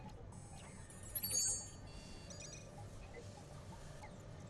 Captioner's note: soft chime